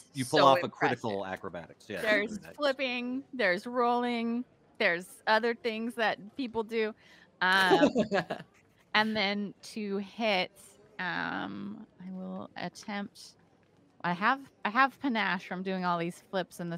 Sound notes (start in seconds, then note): 7.6 laughing